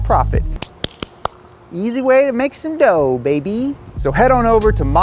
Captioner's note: clapping